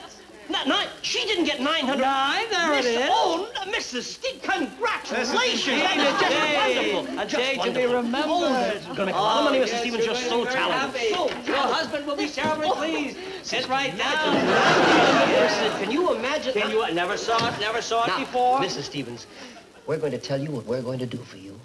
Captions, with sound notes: - She didn't get 900- - Nine, there it is! - Oh, Mrs. Stevens, congratulations! Just wonderful! - This is indeed a day, a day to be remembered! - Just wonderful! - Oh, they're gonna love you, Mrs. Stevens, you're just so talented! - You're gonna be very happy! Your husband will be terribly pleased! Sit right down! - Can you imagine? (audience laughing) - Can you imagine, can you? I never saw it, never saw it before! - Mrs. Stevens, we're going to tell you what we're going to do for you.